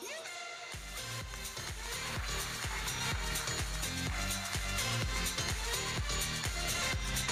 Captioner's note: electronic dance music; audience applauding